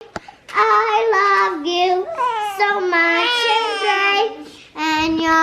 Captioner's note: baby cries